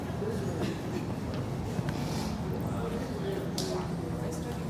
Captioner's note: people chattering